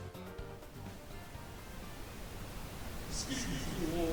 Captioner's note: increasingly louder static